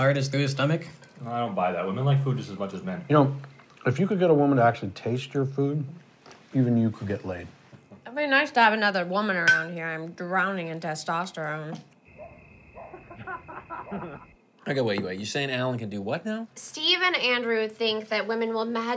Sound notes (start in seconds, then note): 12.0 crickets; 12.7 dog barks; 12.8 people laughing